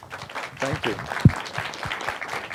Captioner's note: applause